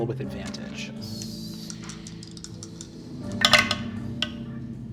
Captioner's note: dice rolling